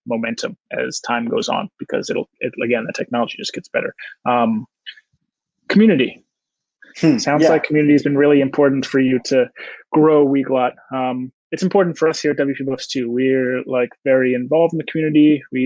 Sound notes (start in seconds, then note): 7.1 chuckles